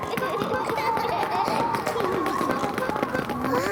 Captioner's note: kids giggle; wind whistling